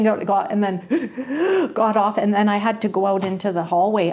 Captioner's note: anxious breathing sounds